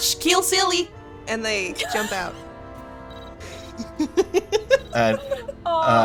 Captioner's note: laughs